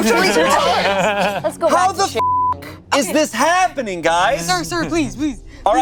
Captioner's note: beep